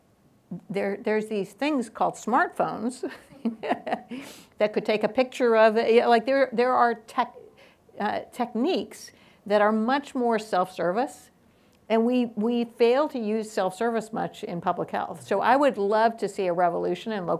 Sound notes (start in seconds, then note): 3.1 laughs